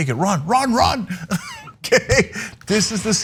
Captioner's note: laugh